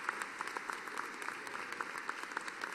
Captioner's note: applause